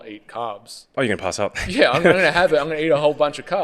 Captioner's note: laughing